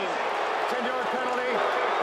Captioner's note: booing